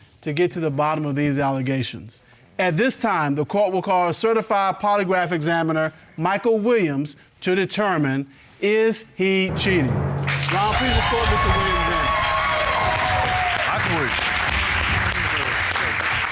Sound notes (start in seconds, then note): 9.5 dramatic music playing; 12.3 applause